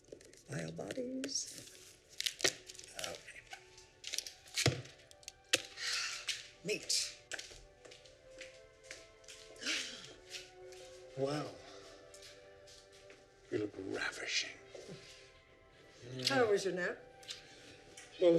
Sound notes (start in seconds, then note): 5.8 Violet sighs; 9.6 Violet gasps